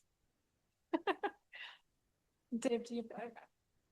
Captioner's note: laughs